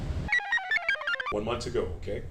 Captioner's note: computer chirps